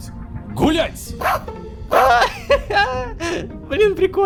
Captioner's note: dog barking